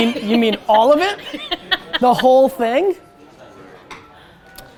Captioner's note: laughs